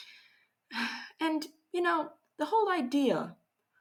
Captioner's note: sighs